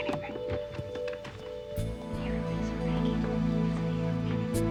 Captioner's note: boys whisper